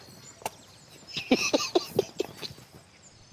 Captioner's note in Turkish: Gülme sesi